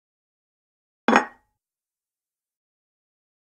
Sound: sound of wood table

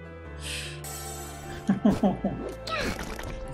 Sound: hopeless laugh

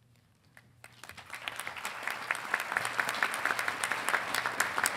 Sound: audience applauding

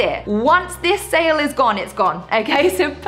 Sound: chuckles

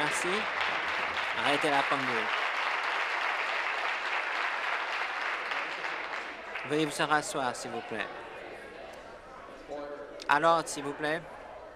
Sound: some Applause

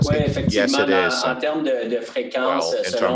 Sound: speaking French

